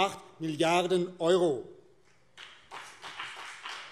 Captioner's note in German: Beifall BÜNDNIS 90/DIE GRÜNEN